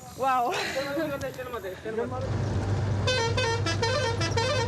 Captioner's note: non-english speech; horn honking